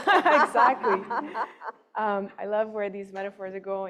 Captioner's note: laughing